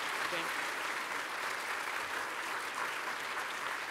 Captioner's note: applause